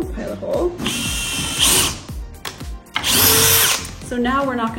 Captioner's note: drill whirring